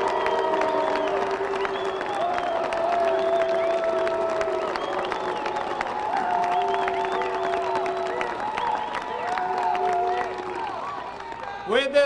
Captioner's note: cheers and boos